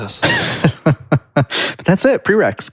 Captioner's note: laughs